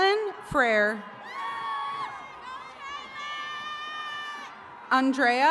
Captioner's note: attendees cheering